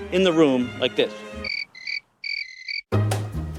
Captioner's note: crickets chirp